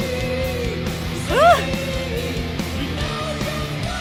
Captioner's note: squealing